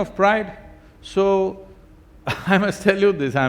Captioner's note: laughs